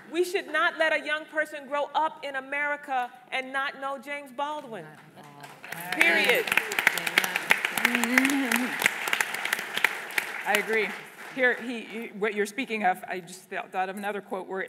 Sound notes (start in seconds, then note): 5.2 applause